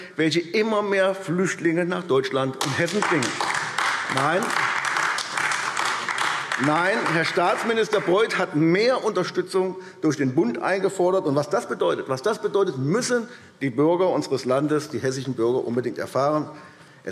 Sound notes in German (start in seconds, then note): 4.1 Beifall AfD